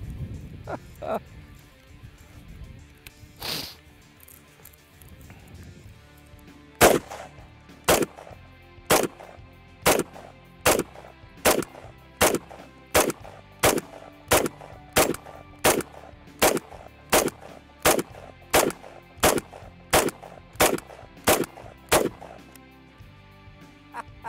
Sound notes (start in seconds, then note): 0.7 laughing; 6.8 gunshots